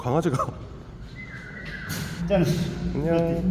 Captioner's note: whistles